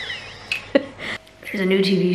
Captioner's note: laughs